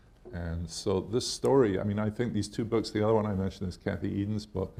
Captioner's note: none